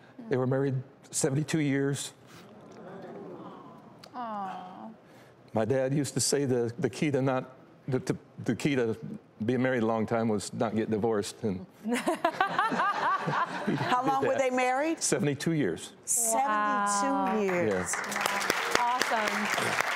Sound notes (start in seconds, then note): 2.6 audience awws; 12.0 host laughs loudly; 17.2 audience claps